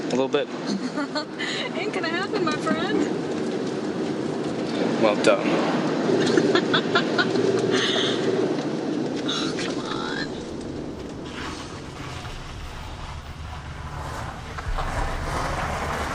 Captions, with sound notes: A little bit. [laughs] Ain't gonna happen, my friend. Well, duh. [laughs] Oh, come on.